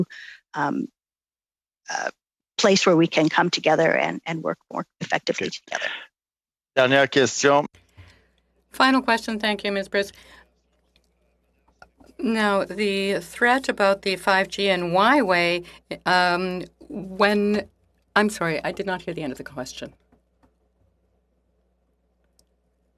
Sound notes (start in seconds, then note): 12.6 speaking French